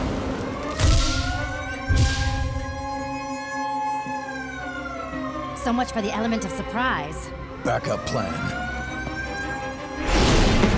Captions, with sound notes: [alarm blaring] So much for the element of surprise. Back up plan. [alarm blaring]